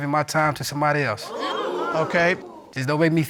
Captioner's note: audience exclaiming